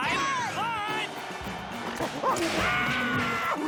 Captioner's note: clyde screeches